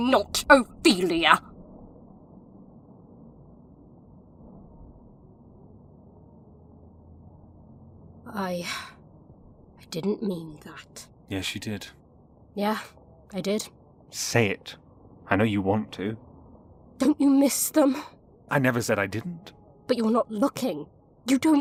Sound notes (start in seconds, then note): 4.8 a pause; 9.1 sighing